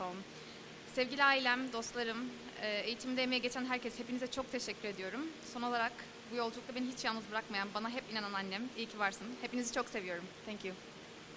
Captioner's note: non-english speech